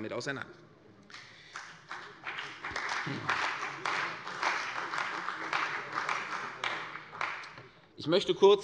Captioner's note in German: Beifall bei der CDU und dem BÜNDNIS 90/DIE GRÜNEN